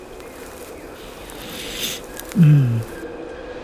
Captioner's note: sniff